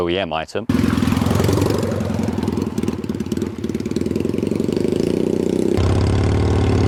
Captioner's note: engine roars